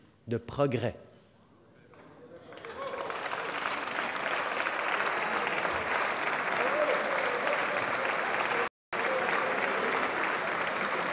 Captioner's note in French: Applaudissements